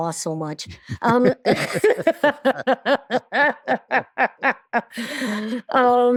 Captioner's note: laughing